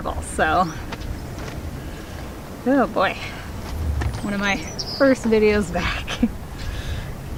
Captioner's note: sighs